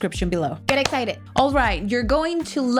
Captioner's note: clap hands